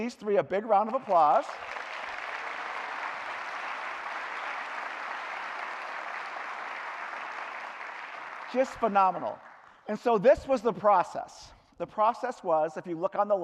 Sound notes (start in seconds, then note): 7.4 cheering; 9.1 clapping